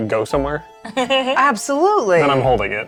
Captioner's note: chuckling